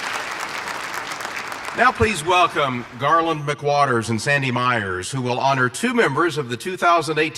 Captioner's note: applause